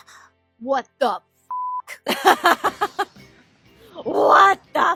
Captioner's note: laughter